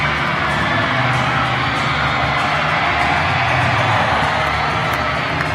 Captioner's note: applause